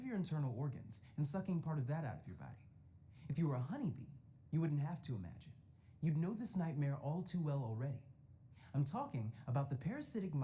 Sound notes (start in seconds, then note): none